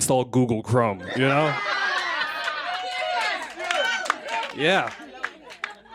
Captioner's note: laughter